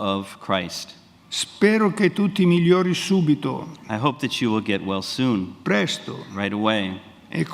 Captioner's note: speaks in Italian